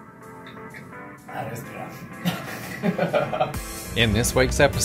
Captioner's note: laughs